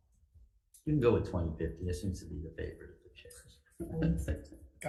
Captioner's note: laughs